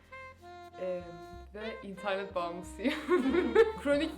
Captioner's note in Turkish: güler